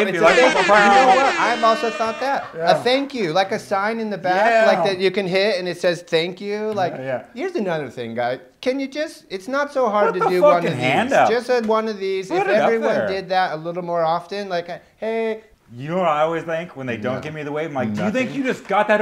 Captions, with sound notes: [triple air horn sound] I've said we need a thank you like a sign in the back like that you can hit and it says thank you. like yeah here's another thing guys can you just-- it's not so hard to do one of these. put a hand up. one of these. if everyone did that a little more often. hey you know I always think when they don't give me the wave, it's like do you think you just got